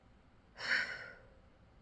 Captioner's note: sighs